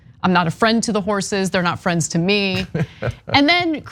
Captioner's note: laugh